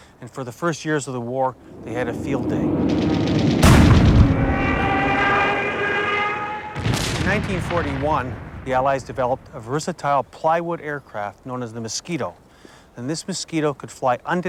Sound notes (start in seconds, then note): 1.6 gun fires; 4.8 plane engine roaring; 4.8 plane explodes